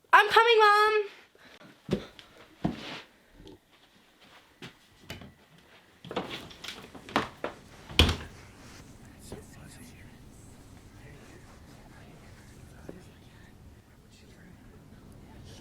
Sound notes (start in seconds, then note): 7.8 door closing; 10.1 voices whispering